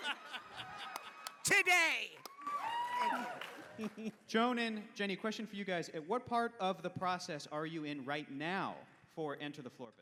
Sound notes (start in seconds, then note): 2.4 cheering